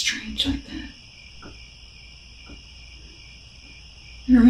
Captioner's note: crickets